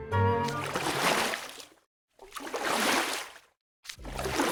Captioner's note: splash!! Splash!!